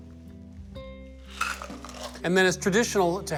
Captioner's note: ice sliding